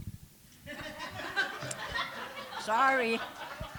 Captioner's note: laughter